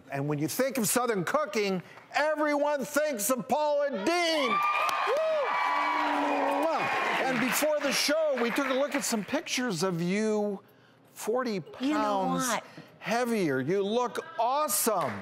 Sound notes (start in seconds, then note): 3.8 audience cheering